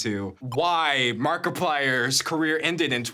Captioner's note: screen beeping